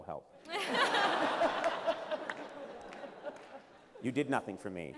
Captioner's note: laughter